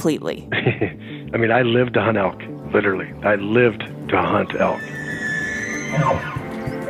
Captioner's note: laughs